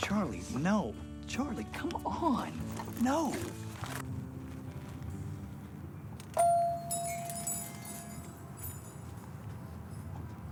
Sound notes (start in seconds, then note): 6.3 dinging